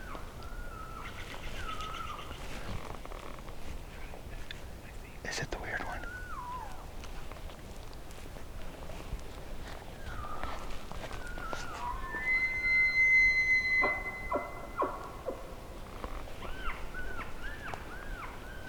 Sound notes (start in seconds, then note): 12.1 elk Bugle